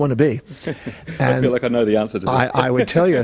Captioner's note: laughs